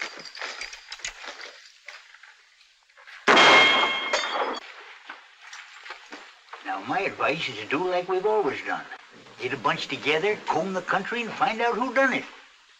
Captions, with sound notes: [ GUNSHOT ] Now my advice is do like we've always done. Get a bunch together, comb the country, and find out who did it.